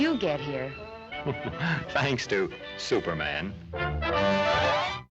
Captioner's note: chuckles